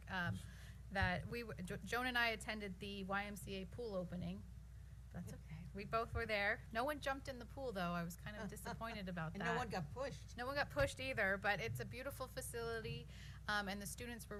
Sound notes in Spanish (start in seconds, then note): 10.2 risas